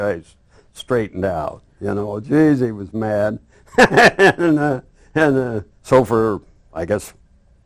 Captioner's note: laughs